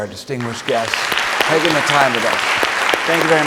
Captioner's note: audience applauding